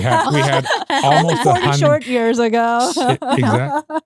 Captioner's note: laughing